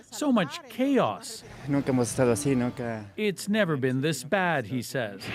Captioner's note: speaking alternate language